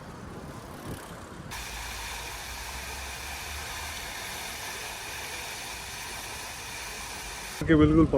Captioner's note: water Fountain Running